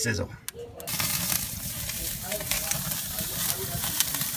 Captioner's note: sizzling steaks